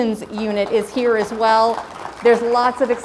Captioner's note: crowd applauds